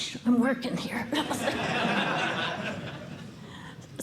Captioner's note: laughter